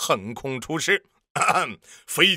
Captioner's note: ahem